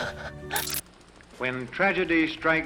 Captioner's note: transition clicks